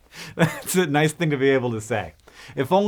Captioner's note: laughs